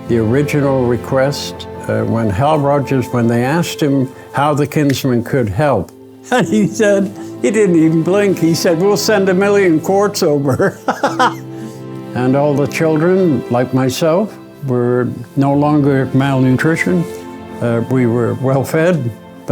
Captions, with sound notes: The original request, when Hal Rogers, when they asked him how the Kinsmen could help, and he said, he didn't even blink, he said, "We'll send a million quarts over." (laughs) And all the children, like myself, were no longer malnutritioned, we were well-fed,